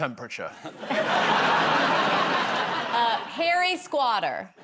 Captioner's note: laughter